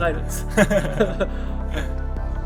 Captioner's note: laughs